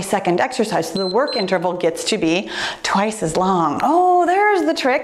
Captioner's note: timer beeps